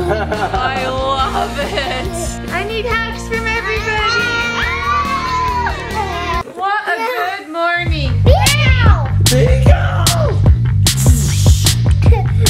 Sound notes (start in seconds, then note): 0.0 laughs; 3.9 all scream